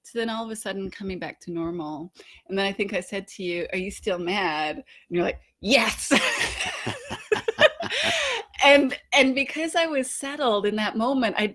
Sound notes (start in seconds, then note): 6.1 both laughing